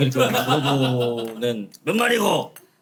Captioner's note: laughing